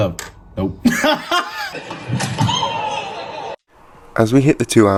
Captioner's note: laughter